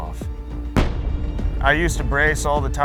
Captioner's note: cannon blasts